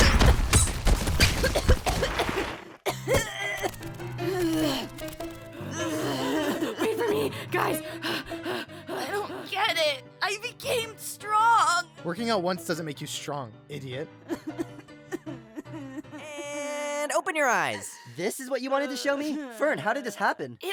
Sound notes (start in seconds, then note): 5.7 panting; 14.3 sad, pained groaning